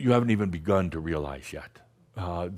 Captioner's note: none